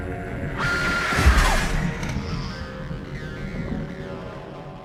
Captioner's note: Slate screaming